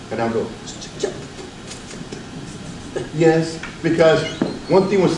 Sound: stutters

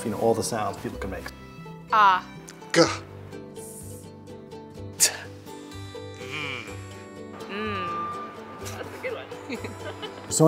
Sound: people making phonetic sounds

